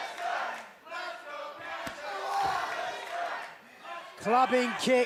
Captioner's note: fans chanting